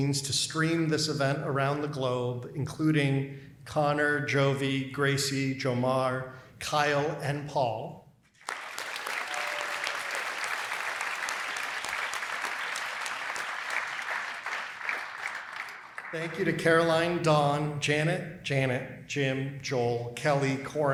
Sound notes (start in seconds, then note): 8.3 applause